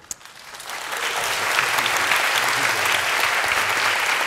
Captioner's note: applause